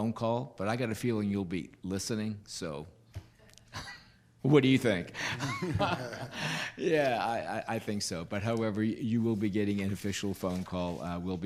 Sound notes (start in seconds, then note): 5.3 laughing